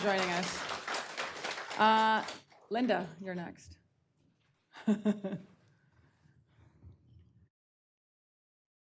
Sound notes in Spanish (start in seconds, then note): 3.0 aplausos